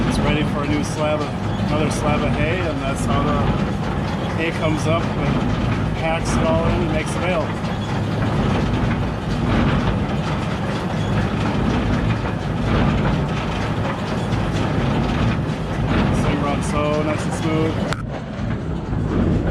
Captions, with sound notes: It's ready for another slab of hay, and that's how the hay comes up, and packs it all in and makes a bale. (engine rumbling) This thing runs so nice and smooth.